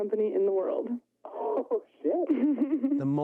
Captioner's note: chuckles